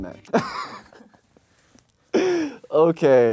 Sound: he laughs

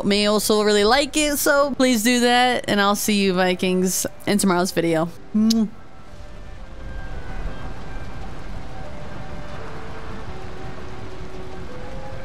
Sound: kiss

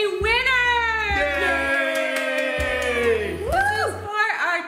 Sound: cheering

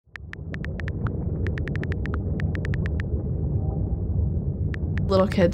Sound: keyboard typing

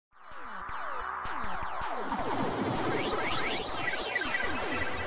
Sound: electronic gaming sound effects

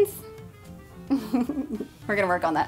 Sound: laughs

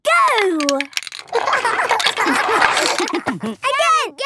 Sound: laughter

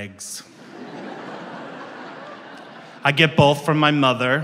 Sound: audience laughs

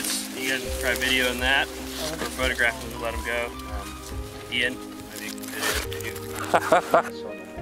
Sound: laughter

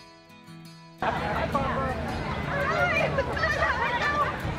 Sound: chatter

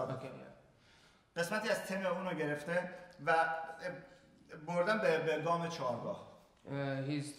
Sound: speaking in farsi

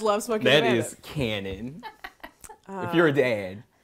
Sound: chuckles

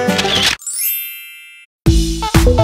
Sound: camera click; chime; upbeat techno music

